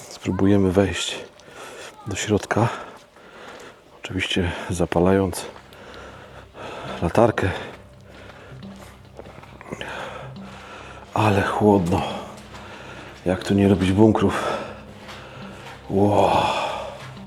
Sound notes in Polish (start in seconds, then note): 9.6 westchnienie; 11.1 wciągnięcie powietrza